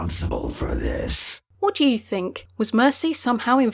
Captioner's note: voiceover